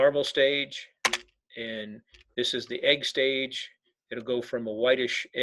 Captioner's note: keyboard clicking